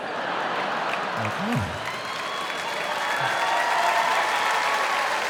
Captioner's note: audience laughing, clapping